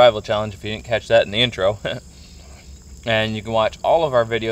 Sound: laughs

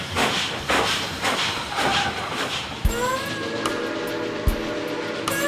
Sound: trains chugging

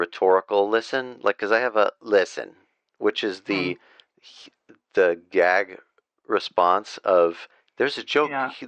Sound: sarcastic

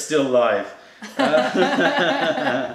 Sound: laughter

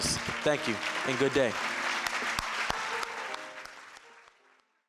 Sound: applause

